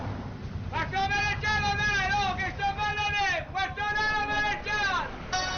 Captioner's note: grocers yelling in italian